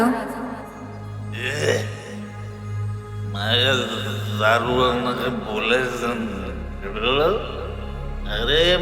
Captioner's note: father slurring